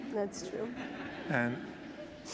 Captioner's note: laughter